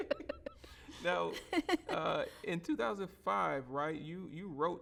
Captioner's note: both laughing